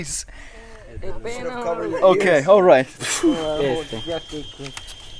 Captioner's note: speaking foreign language; speaking in foreign language